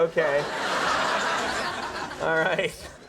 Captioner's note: audience laughing